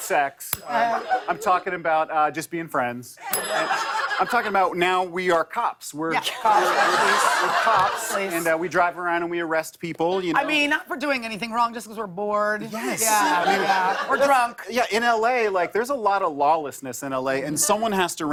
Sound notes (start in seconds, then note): 0.0 ding; 3.3 ding